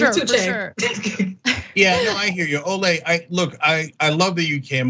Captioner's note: laugh